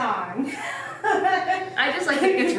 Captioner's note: laughing